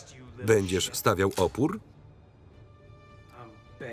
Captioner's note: gun loads